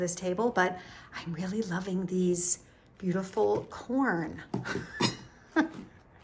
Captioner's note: laughs